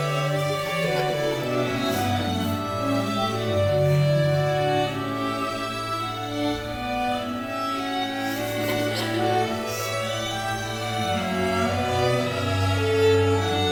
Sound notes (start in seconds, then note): 8.3 audience chuckles